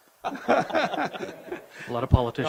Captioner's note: chuckles